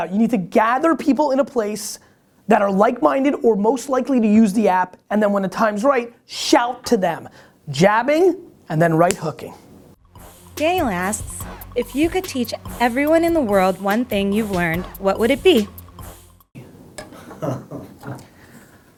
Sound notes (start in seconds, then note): 10.8 voiceover